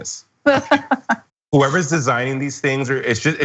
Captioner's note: laugh